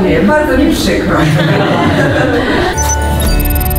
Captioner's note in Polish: śmiechy